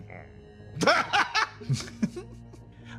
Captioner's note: laugh